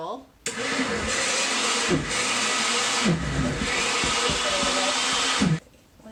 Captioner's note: blender whirring